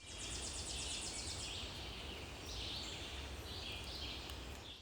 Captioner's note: birds and insects chirping